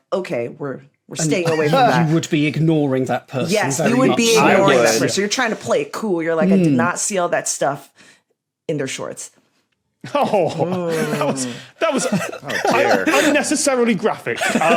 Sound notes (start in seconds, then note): 11.8 laughs; 11.9 giggles profusely